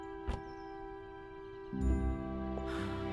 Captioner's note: car door thudding; uplifting music